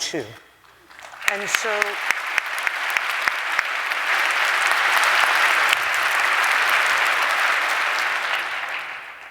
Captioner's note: applause